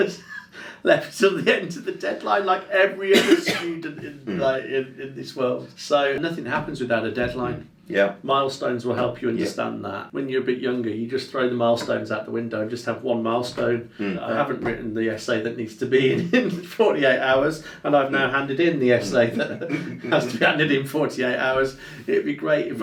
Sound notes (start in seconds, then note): 0.0 laughing; 3.0 coughing; 16.0 laughing